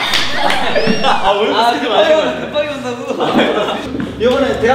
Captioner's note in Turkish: bariz bir şekilde kekeliyor!